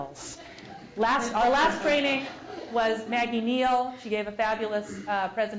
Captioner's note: laugh